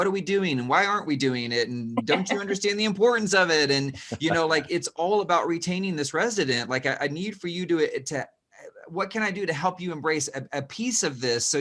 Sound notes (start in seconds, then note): 2.0 laughs